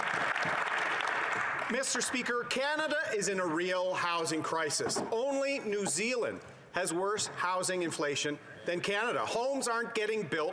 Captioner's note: cheering and Applause